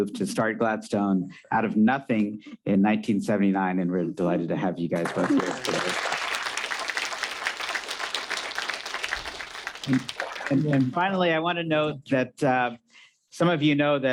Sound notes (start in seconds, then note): 5.0 audience applauding